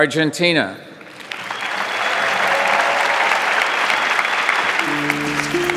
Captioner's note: audience applauding; upbeat music